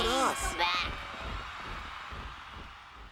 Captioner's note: audience cheering